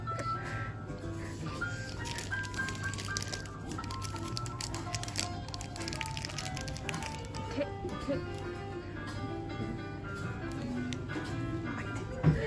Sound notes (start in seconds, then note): 7.3 laughs